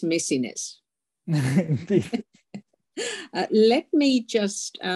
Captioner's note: laughing